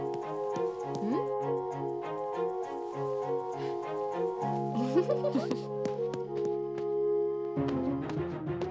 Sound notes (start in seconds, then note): 4.7 laughing; 5.8 footsteps